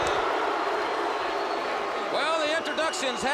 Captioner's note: crowd chattering